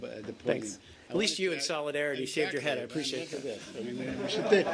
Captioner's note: laughter